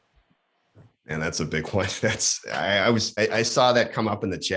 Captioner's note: laughs